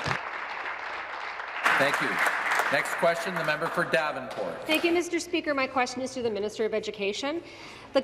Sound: applause

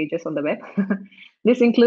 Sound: laughs

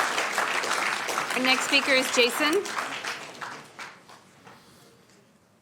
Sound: applauding

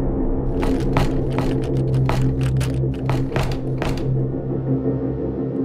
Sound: door Knob Turning

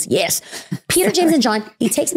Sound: giggling

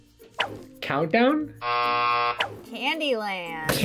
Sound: buzzer rings

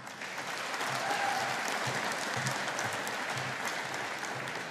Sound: audience applauding

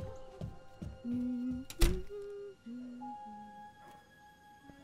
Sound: gentle, quiet music; Jenna humming

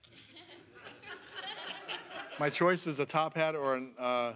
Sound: laughs

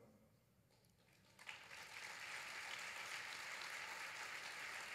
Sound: applause

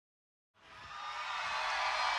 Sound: audience cheers

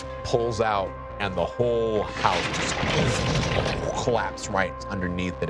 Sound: clattering

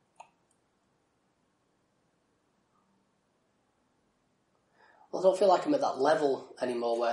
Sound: silence

